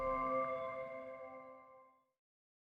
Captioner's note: keyboard clacking